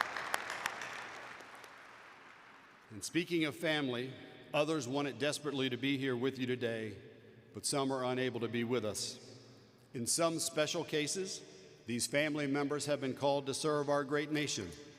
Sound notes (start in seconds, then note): 3.3 applause